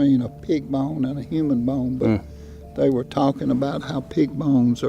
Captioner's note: hums in agreement